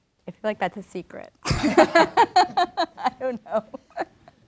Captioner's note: laughs